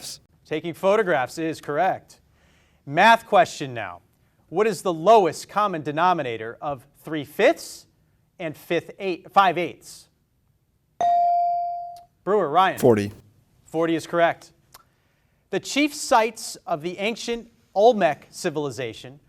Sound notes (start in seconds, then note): 10.3 beep